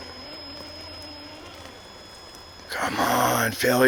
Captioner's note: engine roaring